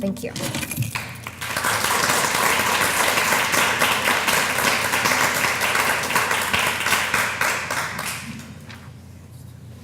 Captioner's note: applause